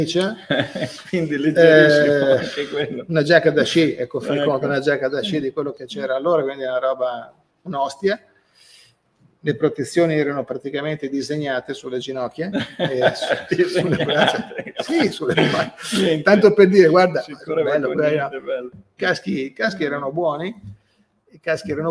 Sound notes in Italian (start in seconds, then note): 12.5 Risate